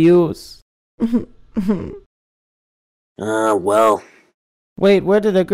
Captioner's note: whimpering